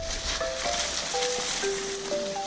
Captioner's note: leaves rustling